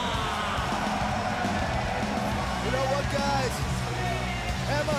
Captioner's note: crowd cheering